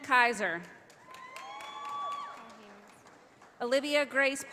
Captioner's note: audience applauding